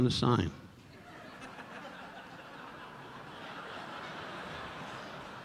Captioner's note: audience laughing